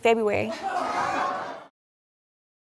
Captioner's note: audience exclaims